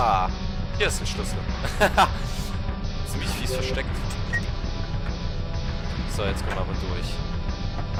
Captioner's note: laughs